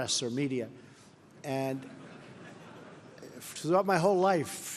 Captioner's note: laughter